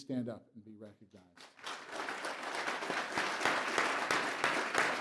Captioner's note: applause